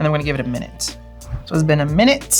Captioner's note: air whooshing